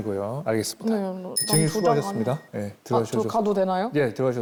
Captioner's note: it’s over sound effect